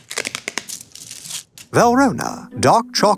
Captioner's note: wrapper tears